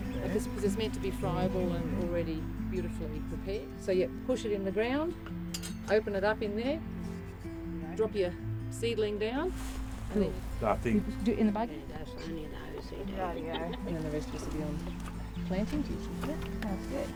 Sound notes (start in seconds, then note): 12.8 people chatter